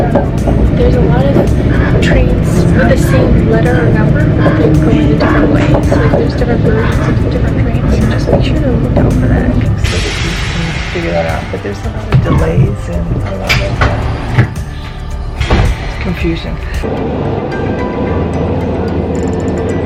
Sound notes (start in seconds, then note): 10.1 train whirring; 16.9 cheerful music